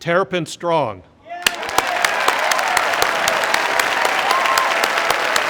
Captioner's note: crowd applauding